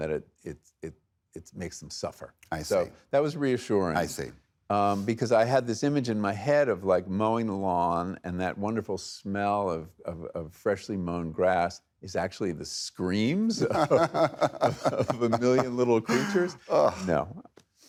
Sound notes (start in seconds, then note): 13.5 laughing